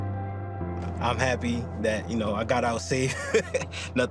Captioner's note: gentle music; laughs